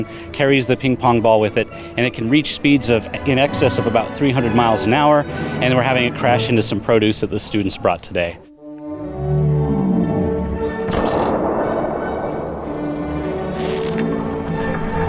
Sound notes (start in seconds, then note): 11.0 cannon firing; 13.5 tomato squishing